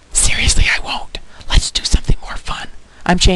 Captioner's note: whispering